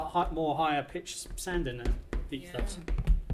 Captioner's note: floor thumps; floor thumping